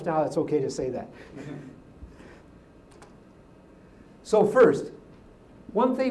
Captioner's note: laugh